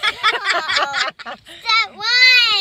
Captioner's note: laughing